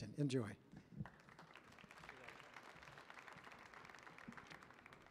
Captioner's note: audience clapping